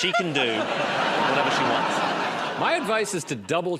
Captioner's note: laughter